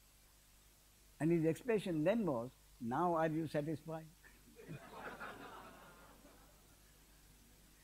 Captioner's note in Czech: smích